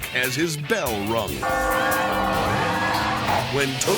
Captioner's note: bell dings; crowd clamoring